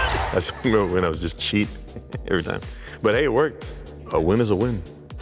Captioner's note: laugh